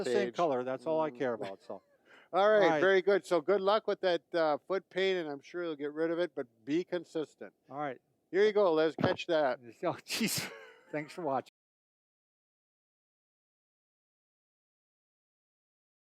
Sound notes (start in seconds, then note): 1.3 chuckles